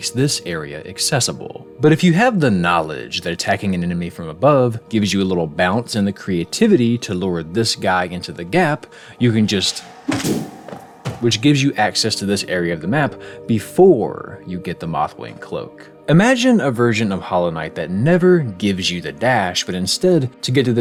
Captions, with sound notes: this area accessible. But if you have the knowledge that attacking an enemy from above gives you a little bounce and the creativity to lure this guy into the gap, you can just- (Boom) which gives you access to this area of the map before you get the mothwing cloak. Imagine a version of Hollow Knight that never gives you the dash but instead… to get past